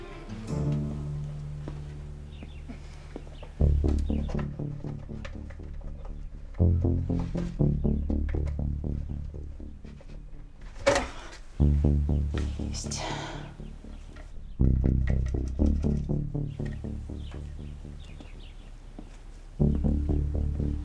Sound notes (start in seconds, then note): 10.5 metallic sounds